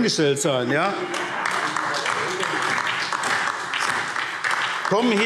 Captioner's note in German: Beifall SPD und vereinzelt Freie Demokraten